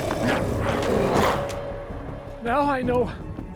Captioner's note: glowzies growling